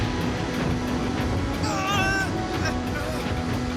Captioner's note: strains